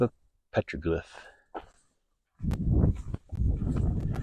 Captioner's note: gravel crunching, wind blowing